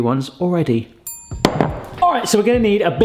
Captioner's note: bell pings; bowl clunks